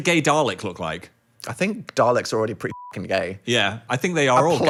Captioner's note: beep